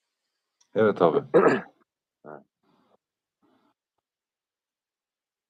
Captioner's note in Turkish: boğazını temizler